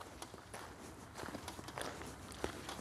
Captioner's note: footsteps on gravel